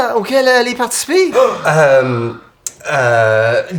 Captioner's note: Riz'shar gasps